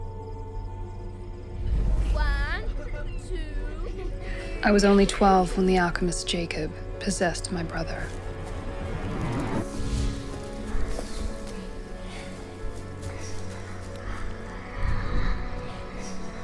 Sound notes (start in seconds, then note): 10.3 eerie whispering